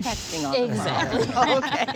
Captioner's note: all laughing